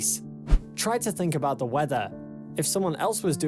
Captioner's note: screen swishes